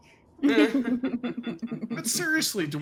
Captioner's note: characters laugh